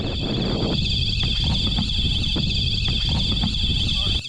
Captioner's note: ship alarm sounds